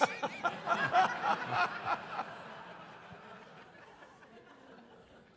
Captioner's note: audience laughing